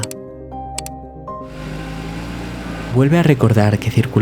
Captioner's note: car